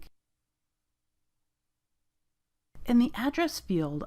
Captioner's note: silence